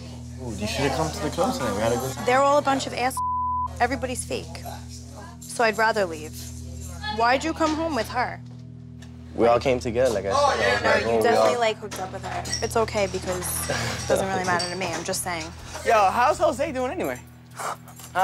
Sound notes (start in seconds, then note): 3.1 beep